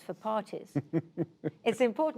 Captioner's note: laughter